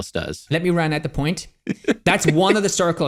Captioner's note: laughs